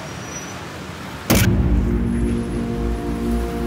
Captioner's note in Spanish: Sonido de cámara